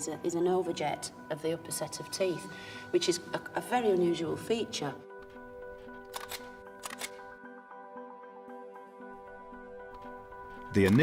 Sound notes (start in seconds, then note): 6.0 camera clicking; 8.6 ambient music